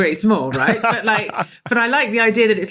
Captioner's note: laughs